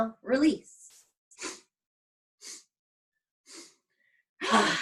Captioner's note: inhaling; exhales